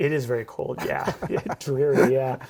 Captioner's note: laughs